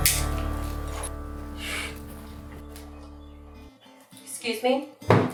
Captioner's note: footseps